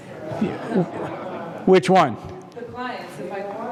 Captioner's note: laugh